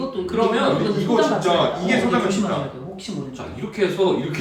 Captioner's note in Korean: 시끌시끌